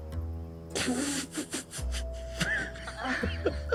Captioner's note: Sam laughing